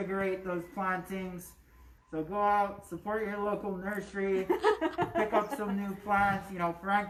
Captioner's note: laughter